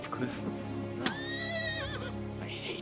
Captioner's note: horse whinnying